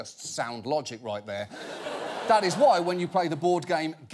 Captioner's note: audience laughing